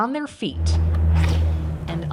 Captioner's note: atmosphere humming; door swishing